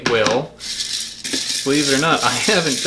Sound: seeds rattle

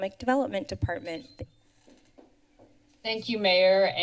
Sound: pause

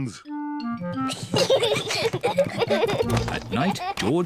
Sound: peppa and george giggling

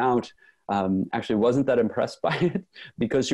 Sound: laughs

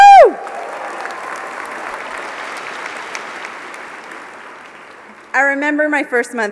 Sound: applause

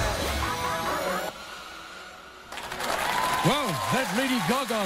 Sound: cheers and applause

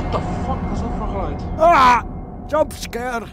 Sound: screams

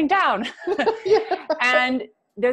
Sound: laughs

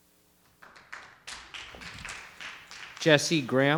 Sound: audience applauding

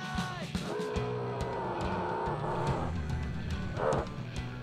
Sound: zombies groaning

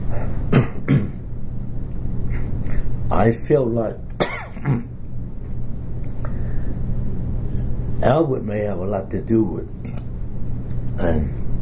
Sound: coughs

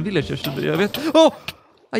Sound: gasp

